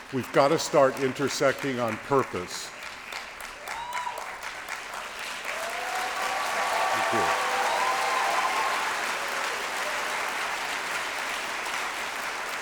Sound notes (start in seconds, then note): 3.7 applause